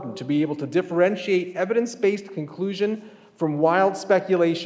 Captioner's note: none